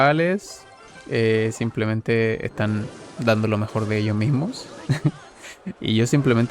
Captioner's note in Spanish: risas